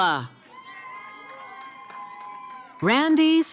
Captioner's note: cheering